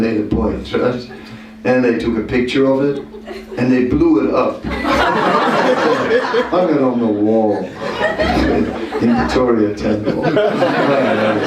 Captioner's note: laughter